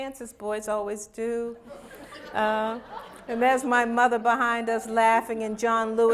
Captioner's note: laughter